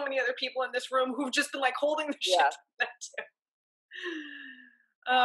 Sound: laughs

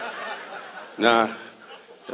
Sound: audience laughs

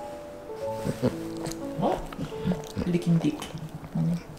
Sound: dog grunts

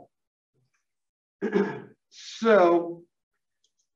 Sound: cough

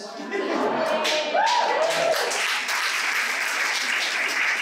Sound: applause

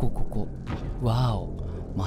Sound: thud

